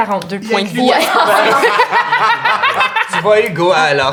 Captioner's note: laughter